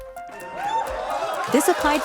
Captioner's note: cheering